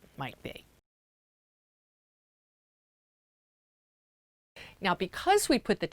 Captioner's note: no Sound Present